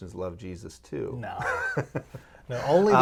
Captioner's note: laughing